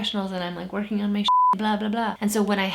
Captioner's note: beep